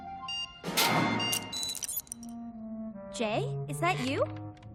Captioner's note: beeping